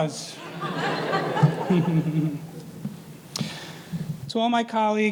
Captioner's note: audience laughing